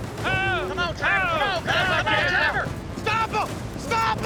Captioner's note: all shouting